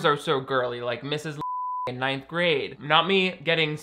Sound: beep

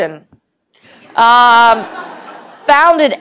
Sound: laughter

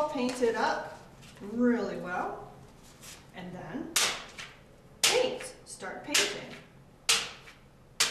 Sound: fly swatter slapping paper on table

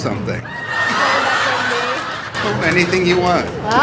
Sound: laughter

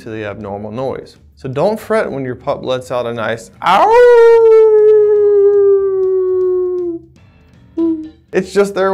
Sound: imitates long dog howl

